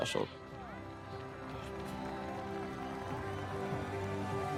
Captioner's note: cheering